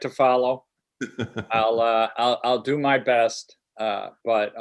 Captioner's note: laughter